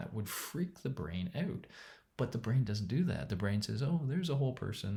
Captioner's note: none